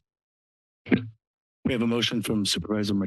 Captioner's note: microphone noise